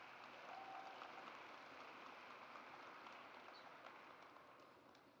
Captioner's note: audience applauds